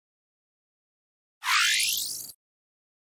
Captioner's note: high-pitched electronic sound